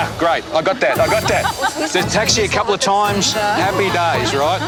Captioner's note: laughs